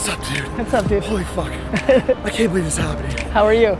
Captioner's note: Gary laughs